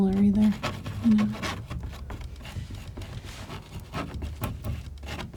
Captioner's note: scratching